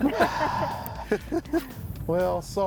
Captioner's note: everybody laughing